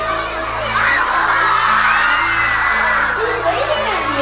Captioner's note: excited audience; rising volume of screams